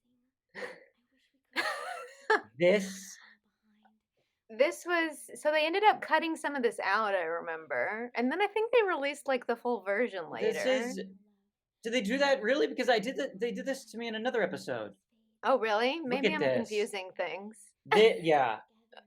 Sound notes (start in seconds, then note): 1.6 laughter